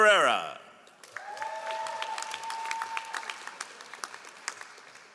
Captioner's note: all applauding